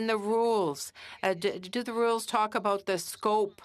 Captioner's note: speaking French